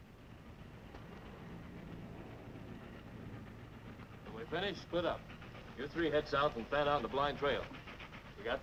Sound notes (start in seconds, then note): 0.0 train chugging in distance